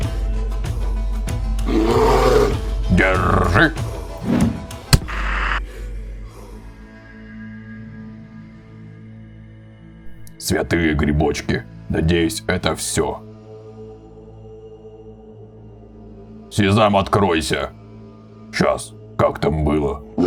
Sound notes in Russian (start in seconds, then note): 1.6 Усталый рёв